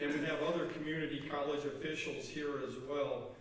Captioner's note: none